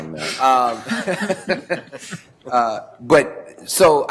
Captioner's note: laughter